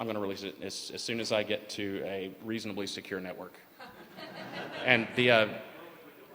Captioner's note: laughter